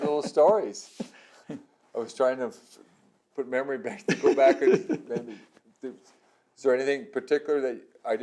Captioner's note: laughter; laughter